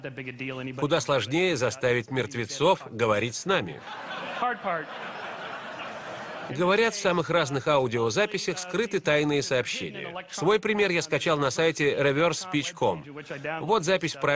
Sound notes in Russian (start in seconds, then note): 3.8 Смех в зале